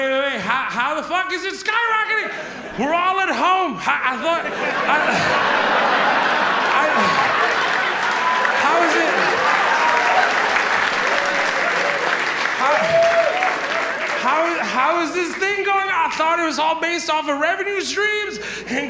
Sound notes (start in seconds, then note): 4.0 audience laughs; 5.3 audience applauds and cheers